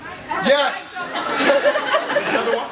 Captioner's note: laughs